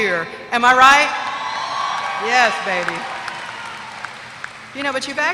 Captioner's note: applause